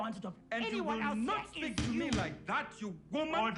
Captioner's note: gavel bang